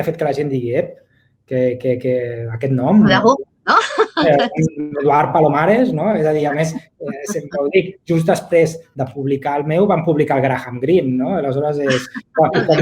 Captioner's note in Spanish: risas